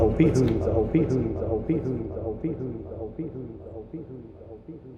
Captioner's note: words echoing